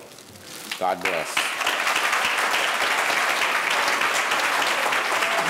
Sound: audience applauding

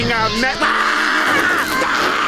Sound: screaming

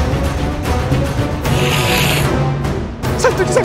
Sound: hisses

